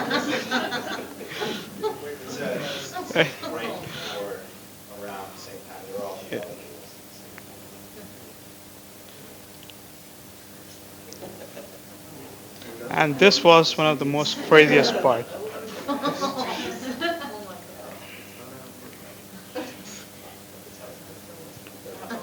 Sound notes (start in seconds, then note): 0.0 laughter; 16.3 laughter